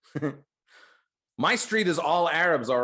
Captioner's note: chuckles